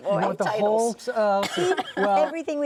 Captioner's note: laughing